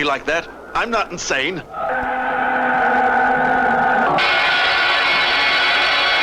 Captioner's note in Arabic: هدير محرك الصاروخ